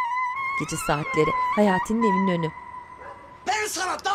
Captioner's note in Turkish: Köpek havlama sesi